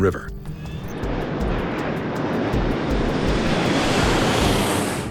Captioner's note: plane engine roars